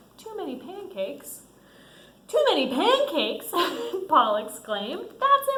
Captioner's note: laughs